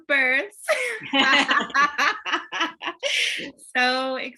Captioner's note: laughter